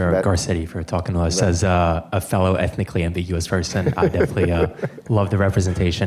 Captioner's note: laughter